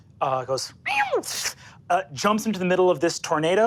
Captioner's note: hisses